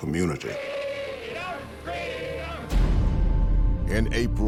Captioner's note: crowd chanting